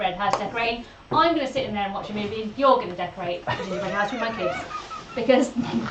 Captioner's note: laughs